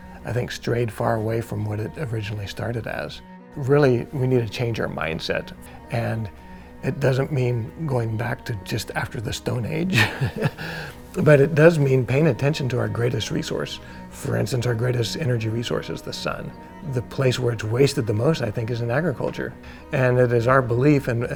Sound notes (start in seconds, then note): 9.9 laughs